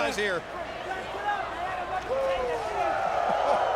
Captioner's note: crowd clamoring